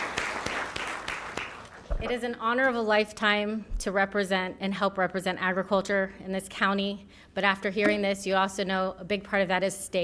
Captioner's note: applause